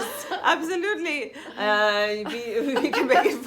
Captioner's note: laughs